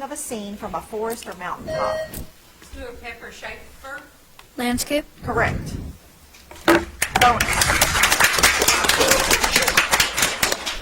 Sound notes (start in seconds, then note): 1.6 bell ringing; 7.0 audience applauds